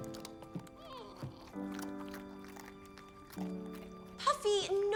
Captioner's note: whimpering and smacking